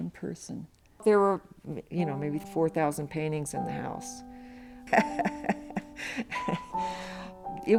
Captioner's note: laughs